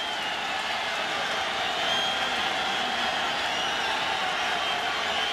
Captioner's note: crowd cheering